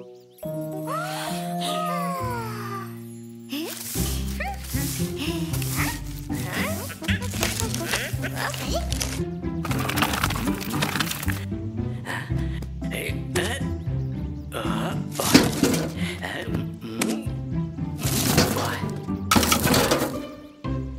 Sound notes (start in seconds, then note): 0.8 sigh sadly; 3.5 sound of brooms; 9.6 sound of wheels; 18.1 thump